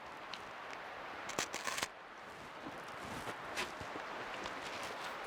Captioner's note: Mercer crunching